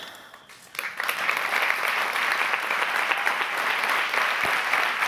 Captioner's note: audience applauding